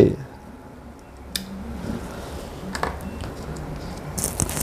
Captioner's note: damper noise